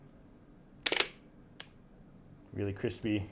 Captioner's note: camera shutter clicks